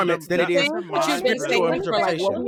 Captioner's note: group chattering